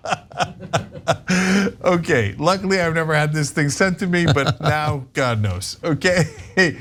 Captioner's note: laugh